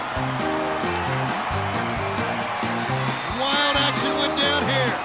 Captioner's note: crowd cheering